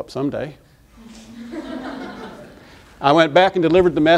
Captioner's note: laughter